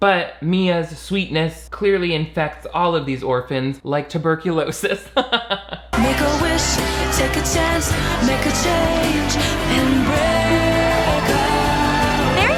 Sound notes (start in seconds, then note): 5.1 laughs